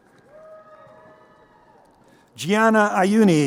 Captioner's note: crowd cheering